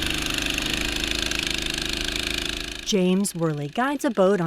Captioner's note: boat motor rumbles; voiceover